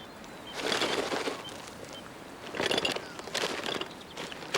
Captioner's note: package rattling